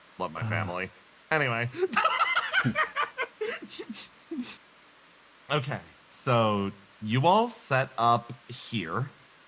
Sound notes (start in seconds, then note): 1.7 laugh